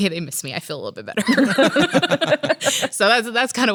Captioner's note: laughs